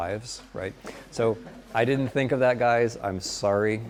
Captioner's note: students laugh